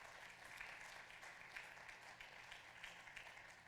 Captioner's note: applause